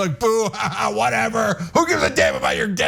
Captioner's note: laugh